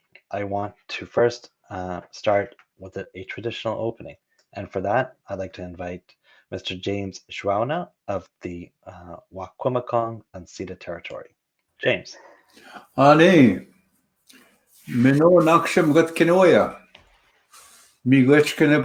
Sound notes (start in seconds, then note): 13.3 Anishinaabemowin language